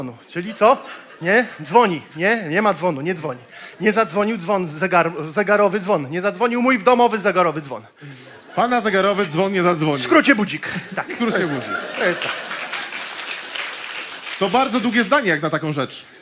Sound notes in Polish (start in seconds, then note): 11.6 oklaski